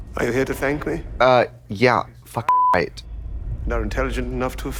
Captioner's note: beep